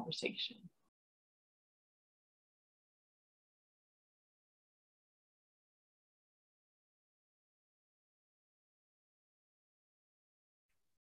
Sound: silence

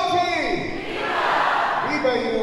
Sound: crowd

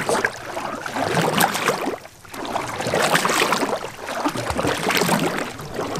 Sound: paddles in the water

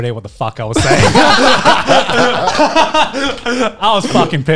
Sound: men laughing

